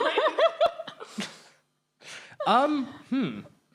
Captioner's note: laughing